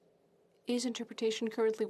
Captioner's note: speaking French